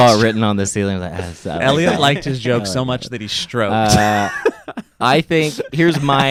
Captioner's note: laughs